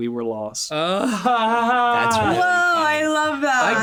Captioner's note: laughs